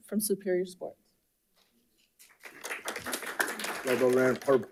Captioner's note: audience applauding